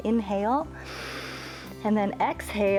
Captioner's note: inhales